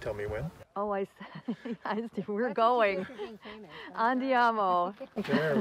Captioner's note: laughter